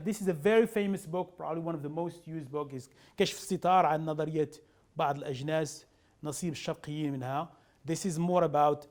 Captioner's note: speaking arabic